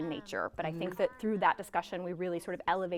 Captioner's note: guests talking